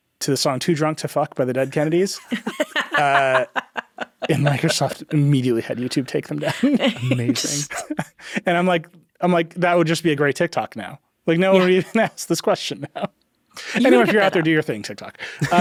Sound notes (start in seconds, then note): 1.6 laughing; 6.8 laughs; 8.1 chuckles